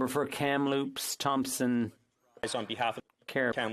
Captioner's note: speaking French